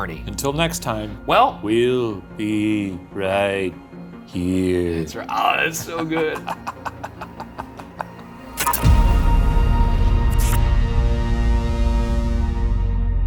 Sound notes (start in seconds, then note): 5.4 laughing; 8.6 screen crackling